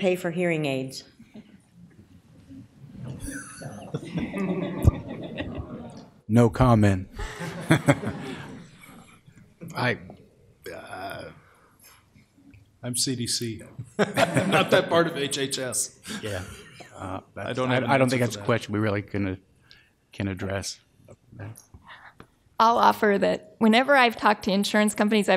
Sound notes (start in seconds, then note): 3.1 laughter; 7.2 laughter